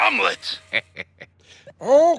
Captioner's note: chuckles